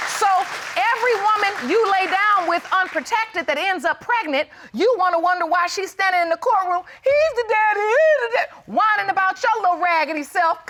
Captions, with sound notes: So every woman you lay down with unprotected that ends up pregnant, you wanna wonder why she standing in the courtroom. [imitates mockingly] "He's the daddy, he's the daddy." Whining about your little raggedy self